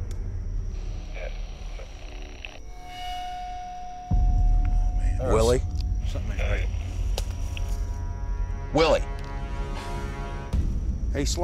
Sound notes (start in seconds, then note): 0.1 suspenseful music playing; 0.8 radio static; 2.9 suspenseful music playing; 7.7 suspenseful music playing